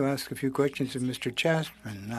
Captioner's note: speaking in French